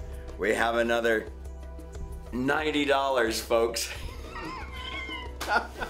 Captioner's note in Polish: śmiech